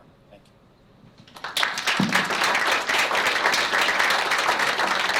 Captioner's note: applause